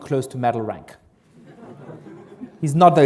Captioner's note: laughter